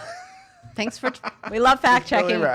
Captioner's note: laughing